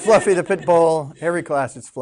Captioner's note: students laughing